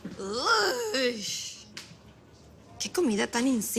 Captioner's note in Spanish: Exclamación